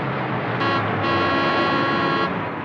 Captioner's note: horn honking